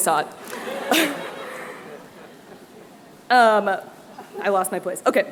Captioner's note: laughter